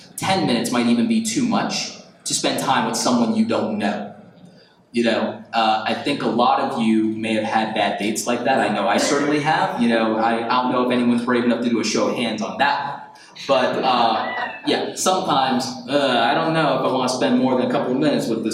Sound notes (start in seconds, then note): 13.4 audience laughs